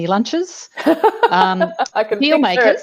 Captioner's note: chuckles